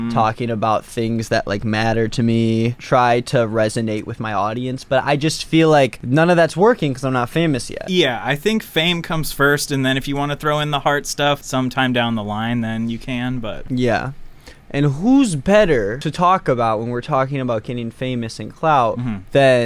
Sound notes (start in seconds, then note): none